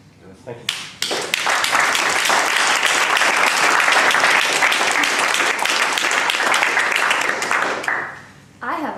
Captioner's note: applause